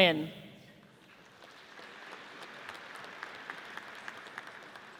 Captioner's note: audience applauds